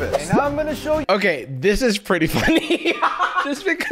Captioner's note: laughs